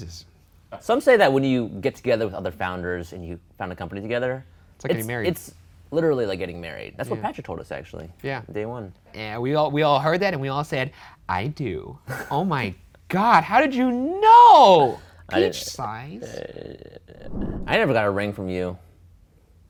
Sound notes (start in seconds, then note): none